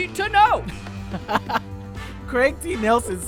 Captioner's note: laughs